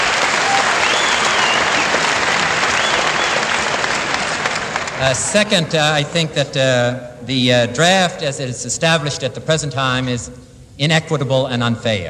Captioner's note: applause